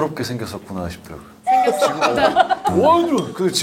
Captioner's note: haha